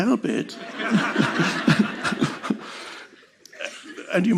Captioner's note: all laughing